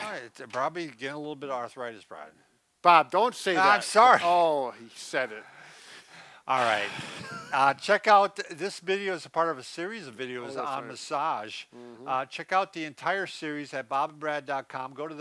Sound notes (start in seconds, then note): 6.6 sighs